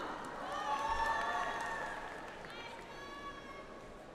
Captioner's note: audience applauds